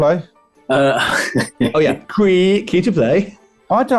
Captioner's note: chuckling